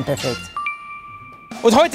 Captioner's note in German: Klingelnder Laut